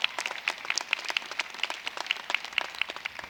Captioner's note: applause